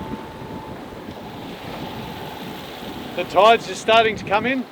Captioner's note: wind blowing; boat engine whirring